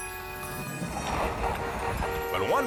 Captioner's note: horn honks